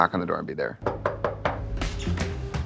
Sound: knock at door

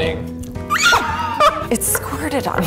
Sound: screams

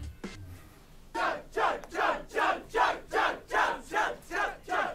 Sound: crowd shouts 'chug'

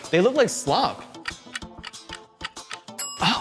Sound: clock ticks

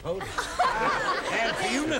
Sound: laughing

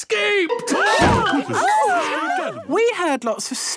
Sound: all gasping

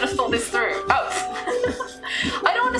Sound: laughs

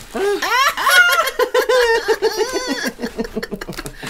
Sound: cries Of Pure Joy

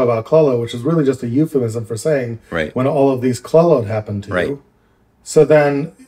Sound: curses

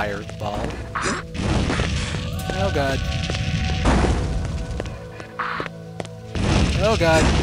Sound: fire shooting

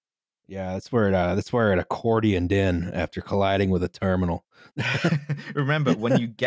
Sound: laughs

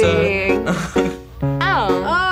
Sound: laughs

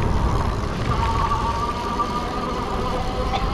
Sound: squeaks

